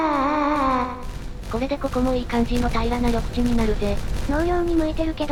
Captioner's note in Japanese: うめき声